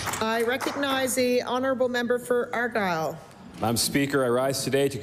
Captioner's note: applause